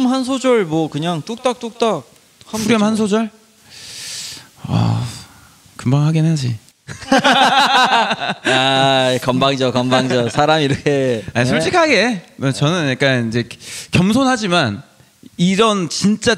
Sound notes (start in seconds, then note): 6.9 laughs